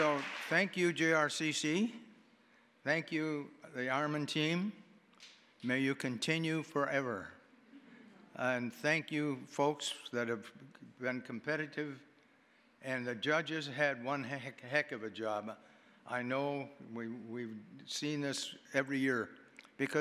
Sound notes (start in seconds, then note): 7.2 audience chuckling